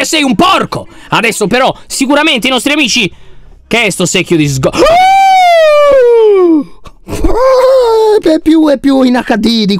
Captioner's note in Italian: urla spaventato